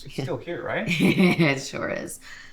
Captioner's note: Maisie chuckles